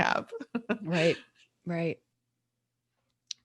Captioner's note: laughing